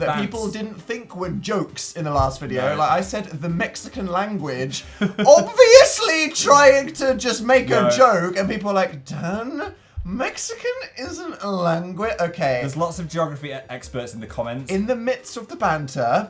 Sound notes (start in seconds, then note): 5.0 laughs